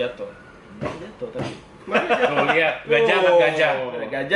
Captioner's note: laughter